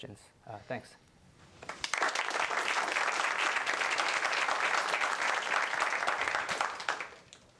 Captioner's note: applause